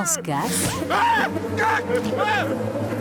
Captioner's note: screaming